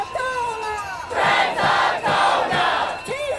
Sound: crowd

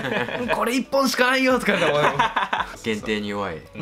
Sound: laughs

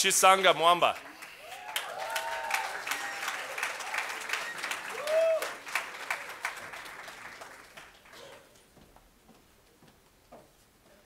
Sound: cheers and Applause

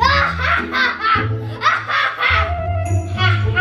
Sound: cackling

